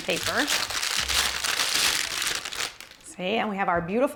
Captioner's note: paper rustling